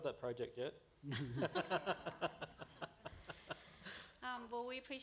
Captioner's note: laughter